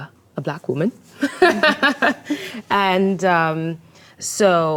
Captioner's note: laughs